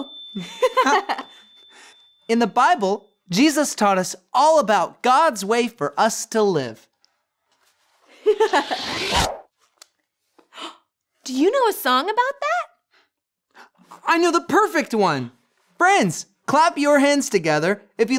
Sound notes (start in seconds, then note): 0.3 laughing; 8.4 dramatic whooshing; 8.4 laughing